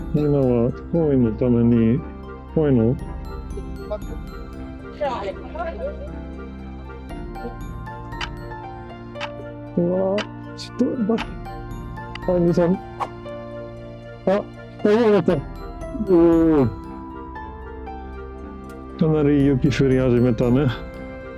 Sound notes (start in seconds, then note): 11.4 the wind